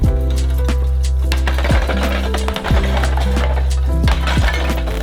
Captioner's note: tiles smashing